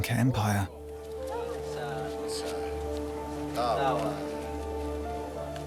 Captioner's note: speaking in foreign language